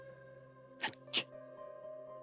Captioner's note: troll sneeze